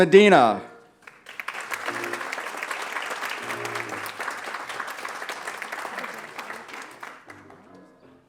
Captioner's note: applause